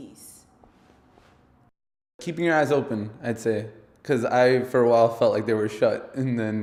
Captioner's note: man 1 speaking